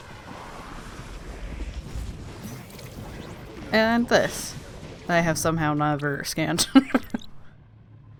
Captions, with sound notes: And this I have somehow never scanned *laughs*